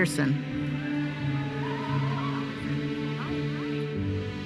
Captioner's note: audience cheers and applauds